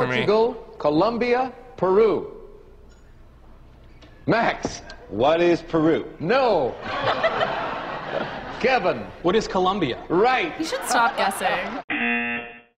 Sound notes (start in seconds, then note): 6.8 audience laughing; 11.8 buzzer